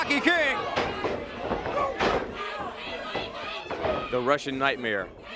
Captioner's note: crowd chatter